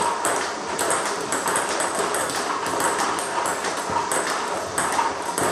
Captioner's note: ball ping pong hitting continues